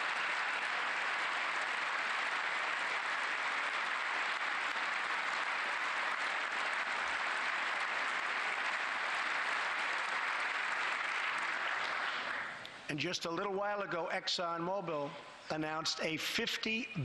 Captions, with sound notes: BILLION IN AMERICA AND HIGHER -- AND HIRE ANOTHER 20,000 WORKERS. [APPLAUSE]